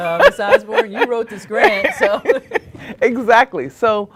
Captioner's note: laughter